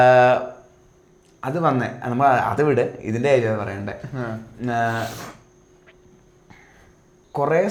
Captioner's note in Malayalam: ചീറ്റുന്നു